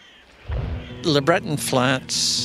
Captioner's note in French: bruit d'arbre